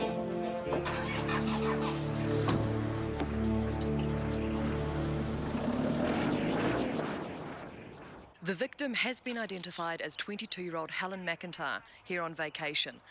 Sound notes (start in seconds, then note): 0.8 engine revving